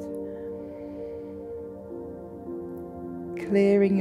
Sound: inhales

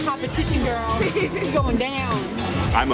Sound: laughing

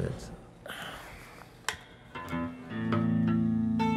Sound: exhale; jazz guitar music

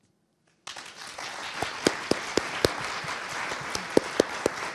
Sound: audience applauding

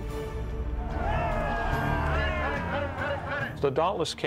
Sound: men shouting

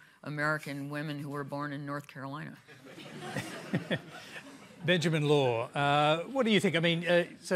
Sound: laughter

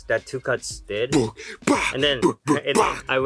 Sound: beat boxes

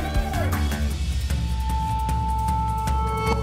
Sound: cheering

